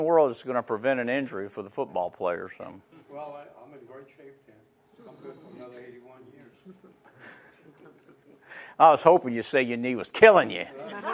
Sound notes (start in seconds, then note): 6.5 laughing